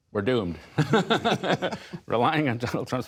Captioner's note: laughter